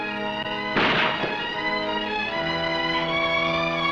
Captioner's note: gunshots blasting